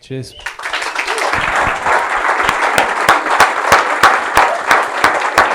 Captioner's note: audience applauds